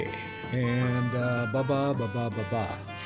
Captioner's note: laughing